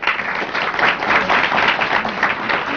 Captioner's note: applause